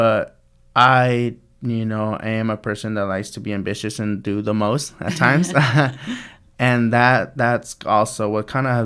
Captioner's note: laughs